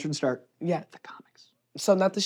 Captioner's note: whispers